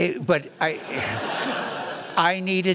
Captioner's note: laughter